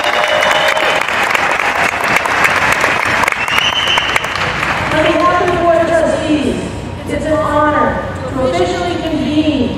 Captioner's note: applause